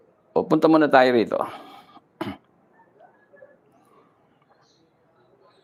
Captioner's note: clears throat